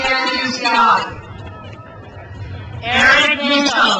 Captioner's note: crowd cheers